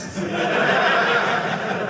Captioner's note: audience laughing